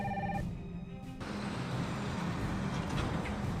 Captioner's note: phone ringing